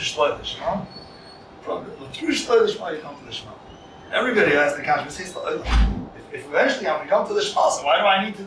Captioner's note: Hebrew